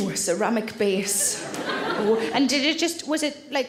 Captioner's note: audience laughs